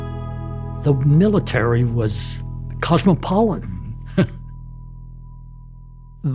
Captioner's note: laughs